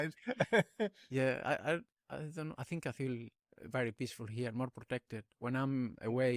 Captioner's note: laughter